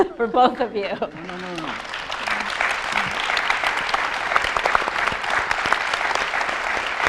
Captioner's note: audience applauding